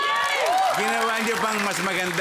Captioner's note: cheering, applauding